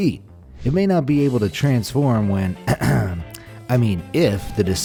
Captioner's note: clears throat